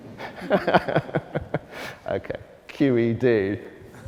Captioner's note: laughs